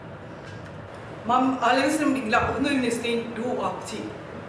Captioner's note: non-english speech